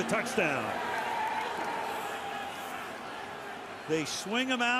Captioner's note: screaming